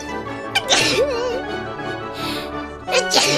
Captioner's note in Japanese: くしゃみ; くしゃみ